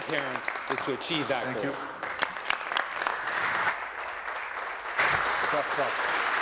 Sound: applause

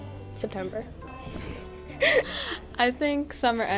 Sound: laughter

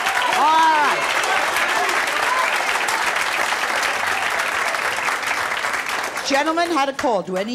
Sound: audience clapping and cheering

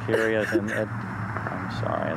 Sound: crying

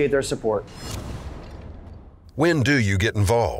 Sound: whooshing

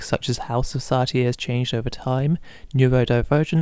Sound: none

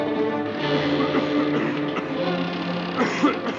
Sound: Rod coughs

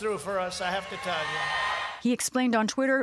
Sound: cheering and applause

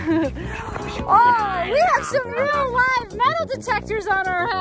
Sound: laughs

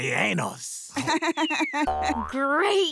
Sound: laughing

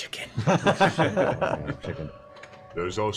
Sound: laughter

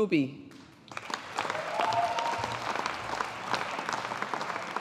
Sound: audience applauding

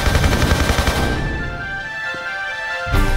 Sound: none

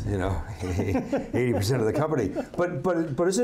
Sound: laughing

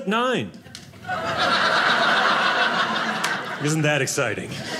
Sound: audience laughing

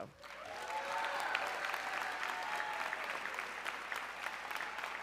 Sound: audience cheering

